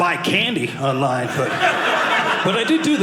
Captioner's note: audience laughing